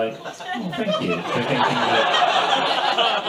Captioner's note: audience laughs